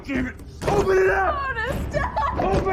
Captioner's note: sobbing